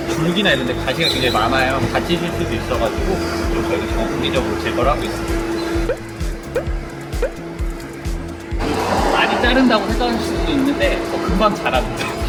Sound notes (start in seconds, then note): 7.1 playful sound effect